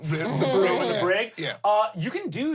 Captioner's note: everyone laughs